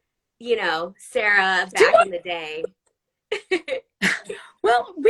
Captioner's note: laughs